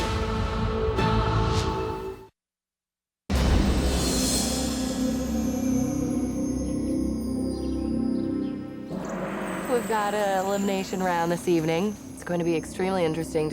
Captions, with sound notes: (brooding music) (brooding music) (birds chirping) - We've got an elimination round this evening. It's gonna be extremely interesting